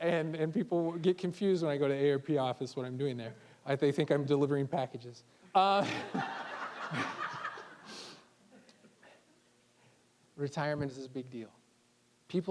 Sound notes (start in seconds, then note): 5.8 all laughing